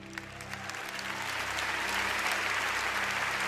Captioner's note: cheering